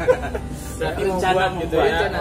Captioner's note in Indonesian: laugh